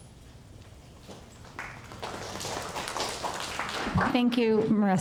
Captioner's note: audience applause